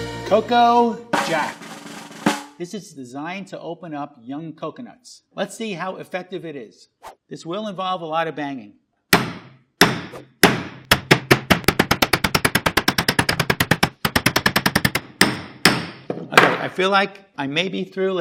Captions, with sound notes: Coco Jack. [drum roll tapping] This is designed to open up young coconuts. Let's see how effective it is. [air whooshes] This will involve a lot of banging. [hammer banging loudly] [air whooshes] [hammer rapidly tapping] Okay, I feel like I may be through.